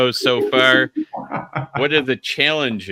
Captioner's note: laughs